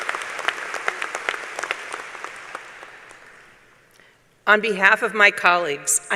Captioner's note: applause